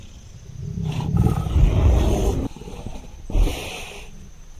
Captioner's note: bear panting; bear growls